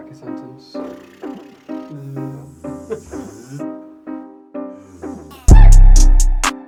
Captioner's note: blows raspberry; hums